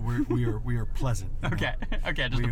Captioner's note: laughs